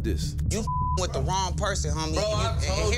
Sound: beep

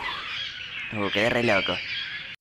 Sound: exhales

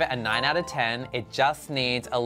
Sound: chime

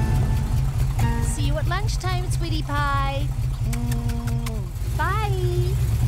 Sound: kissing noises

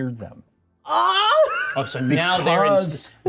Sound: laughs

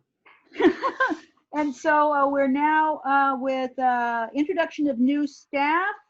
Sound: laughs

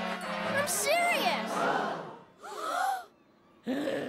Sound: gasp

